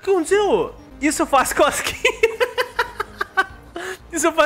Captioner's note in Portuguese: risos